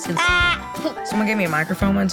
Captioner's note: child yelling